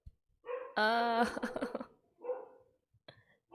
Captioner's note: pained laughter